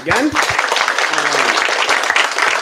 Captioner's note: applause